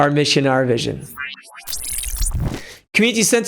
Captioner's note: metallic beeping